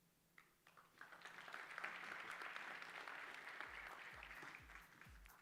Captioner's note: applause